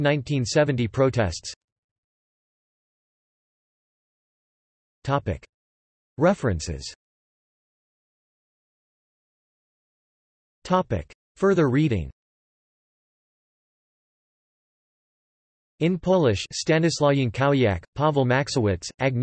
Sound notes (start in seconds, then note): 9.9 in Polish